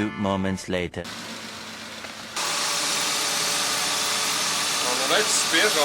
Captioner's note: engine idle